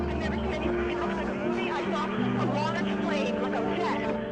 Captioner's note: people screaming; tense music; reporter chattering